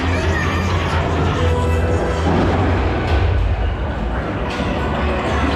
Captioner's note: shouts; thunder booms